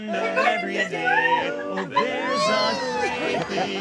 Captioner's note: laughs and screams